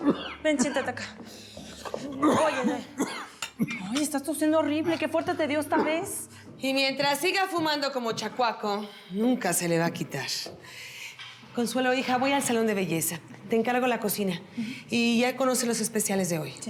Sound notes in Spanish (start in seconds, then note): 0.0 continúa tosiendo